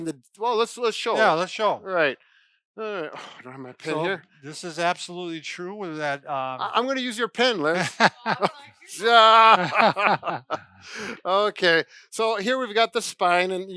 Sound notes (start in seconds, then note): 8.9 laughs; 9.0 laugh